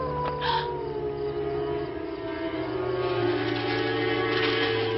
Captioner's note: Mary gasps; leaves rustling